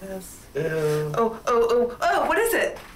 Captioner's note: man chuckling